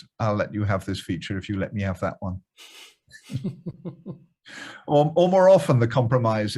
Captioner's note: laughs